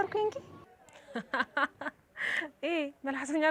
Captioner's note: laughs